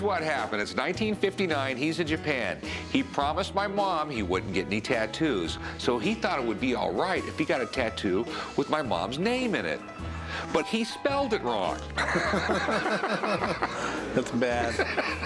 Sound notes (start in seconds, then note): 11.9 laughter; 14.7 laughs